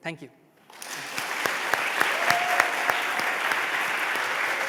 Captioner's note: applause